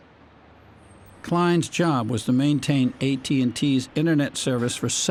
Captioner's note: voice-over